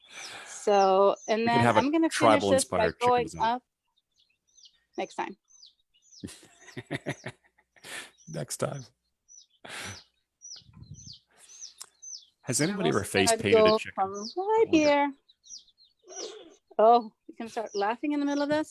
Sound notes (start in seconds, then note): 6.2 chuckles